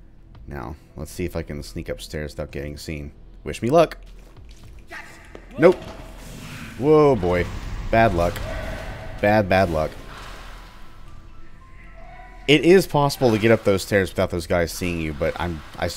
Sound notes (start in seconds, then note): 8.3 Bugdog party snarls